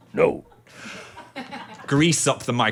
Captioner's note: crew laughing